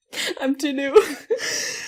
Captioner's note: laughing